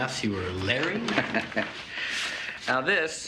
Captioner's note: Nash chuckling